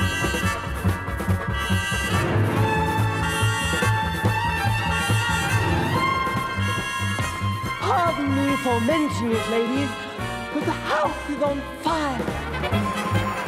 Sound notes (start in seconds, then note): 7.6 emphatically